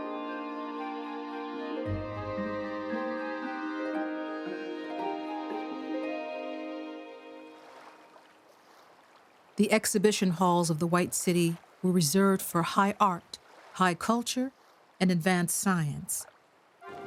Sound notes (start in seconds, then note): 7.3 water splashing